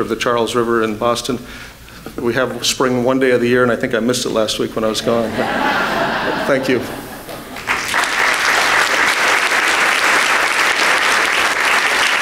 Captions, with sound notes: of the Charles River in Boston. We have Spring one day of the year and I think I missed it last week when I was gone. (laughter) Thank you. (applause)